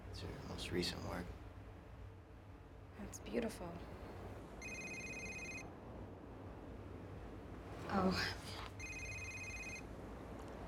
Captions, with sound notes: It's her most recent work. ( cell ringing ) Oh.